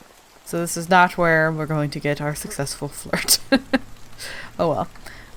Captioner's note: laughs